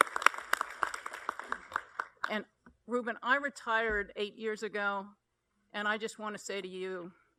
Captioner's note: applause